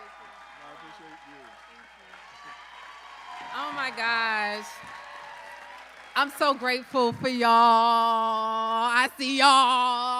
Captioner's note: applause